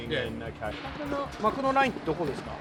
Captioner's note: speaking japanese